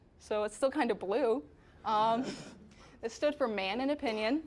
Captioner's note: all chuckling